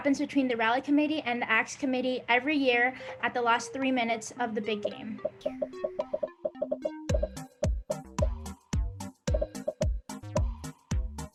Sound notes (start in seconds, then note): 4.5 upbeat music; 5.2 popping